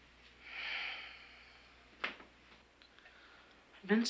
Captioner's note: Jan exhales